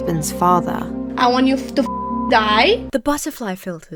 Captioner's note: beeps